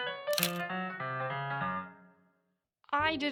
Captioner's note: A camera *click* sounds, while Music fades out